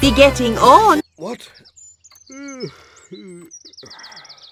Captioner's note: yawns